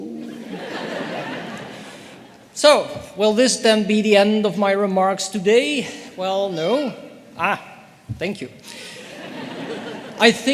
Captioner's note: laughter